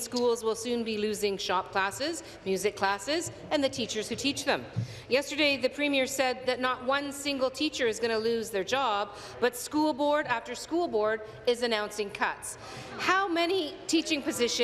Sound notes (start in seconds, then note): none